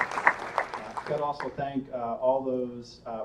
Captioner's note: applause